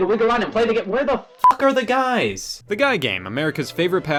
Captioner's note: beep